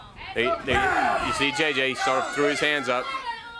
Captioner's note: crowd chatter